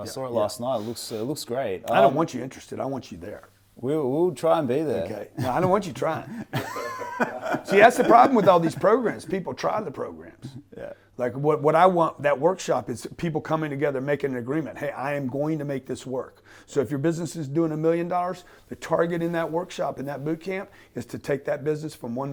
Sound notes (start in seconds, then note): 5.4 laughing